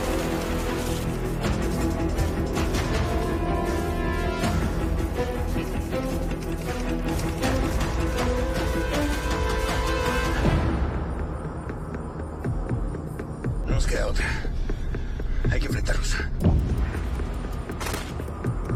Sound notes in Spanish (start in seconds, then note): 16.7 Disparo